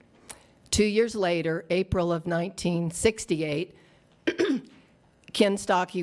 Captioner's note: clears throat